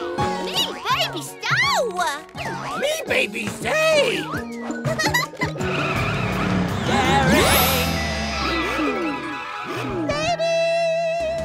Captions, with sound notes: Me baby Starla! Me baby Zeg! [laughing] Darring-- Baby!